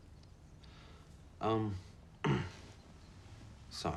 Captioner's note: clears throat